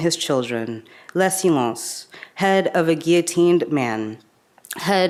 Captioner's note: speaks in a foreign language